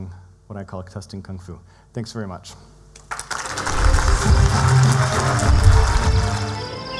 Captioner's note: applause